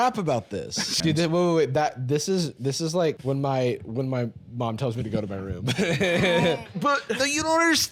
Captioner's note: laughs